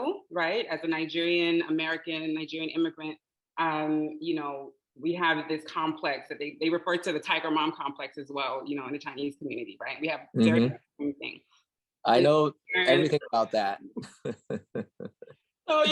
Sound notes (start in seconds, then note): 13.9 laughing